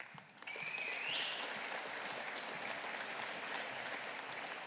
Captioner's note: audience applauding